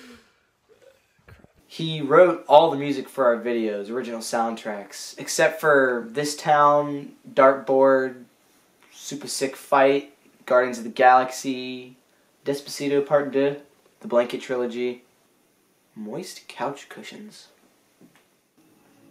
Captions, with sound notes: [Whispering] Crap. He wrote all the music for our videos original soundtracks except for This Town, Dartboard, Supah Sik Fite, Guardians of the Galaxy, Despacito part Deux, The Blanket Trilogy... Moist couch cushions?